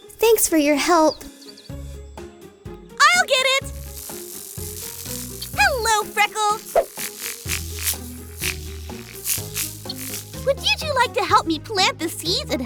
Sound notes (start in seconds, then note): 3.4 buzzing